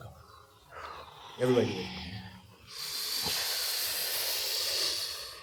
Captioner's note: exhaling; sharply inhaling